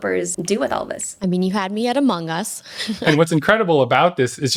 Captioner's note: laughing